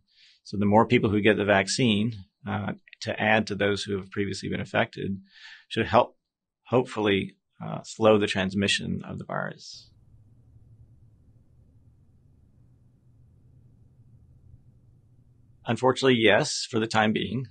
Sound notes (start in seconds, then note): 9.7 silence